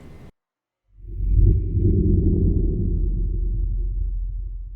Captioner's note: wind whooshing